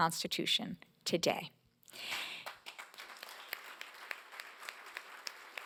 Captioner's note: applause